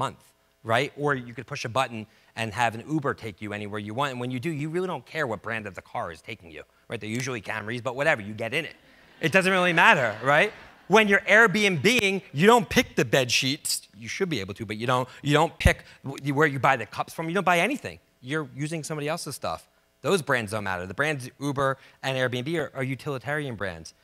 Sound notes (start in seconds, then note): 8.9 audience laughs